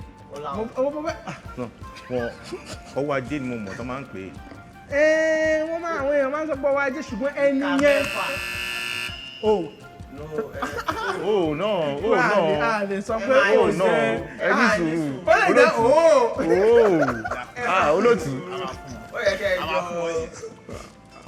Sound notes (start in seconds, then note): 0.9 laughs; 7.7 buzzer pressed; 17.1 laughs